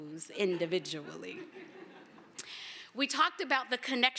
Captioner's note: laughter